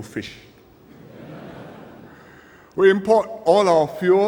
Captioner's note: laughter